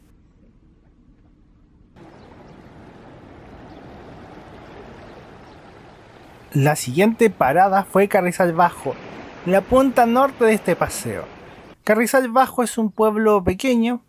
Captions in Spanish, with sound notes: (sonidos de aves en el ‘Desierto Florido’) (sonido ambiente con el mar) la siguiente parada fue ‘Carrizal Bajo’, la punta norte de este paseo ‘Carrizal Bajo’ es un pueblo pequeño